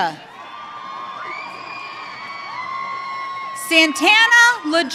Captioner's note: audience cheering